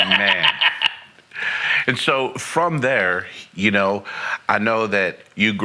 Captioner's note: laughs